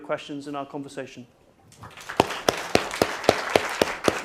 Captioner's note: applause